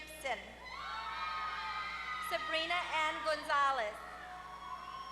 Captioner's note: applause